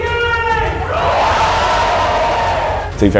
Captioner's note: applause